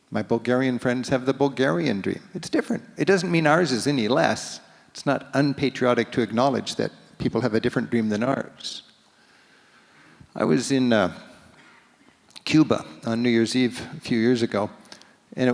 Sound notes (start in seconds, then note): none